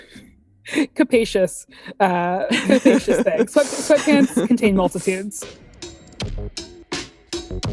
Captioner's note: laugh